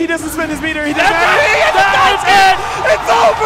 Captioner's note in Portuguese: platéia gritando e vibrando